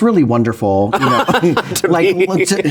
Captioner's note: both laughing